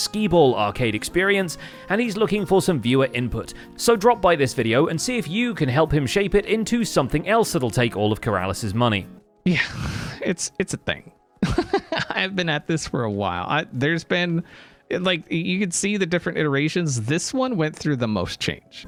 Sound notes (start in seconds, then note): 9.4 sighs; 11.4 laughs